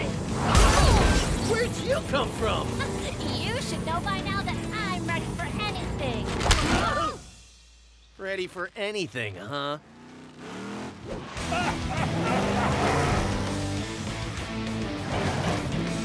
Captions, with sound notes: Whoa! Where'd you come from? Ha! You should know by now that I'm ready for anything! [crying out] Ready for anything, huh? [engines racing] [laughing]